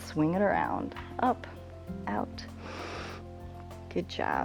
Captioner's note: inhales